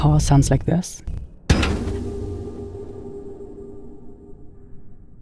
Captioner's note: bright warble